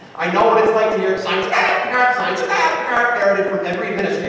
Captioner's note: squawk